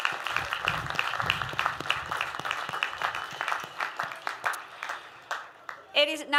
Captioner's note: applause